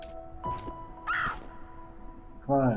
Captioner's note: caws